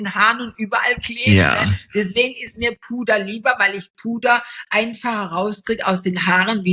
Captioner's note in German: räuspern